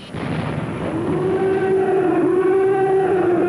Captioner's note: roaring